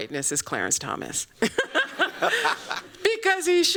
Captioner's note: laughs